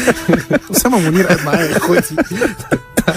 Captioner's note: laughs!